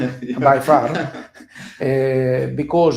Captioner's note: laughs